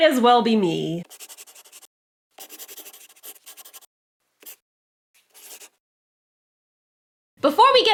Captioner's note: the sound of a pen scratching. LOGO